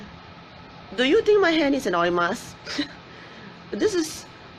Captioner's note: chuckles